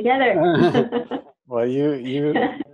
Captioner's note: both laugh